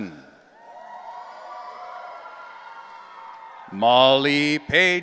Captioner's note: audience cheering